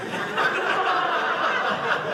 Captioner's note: audience laughing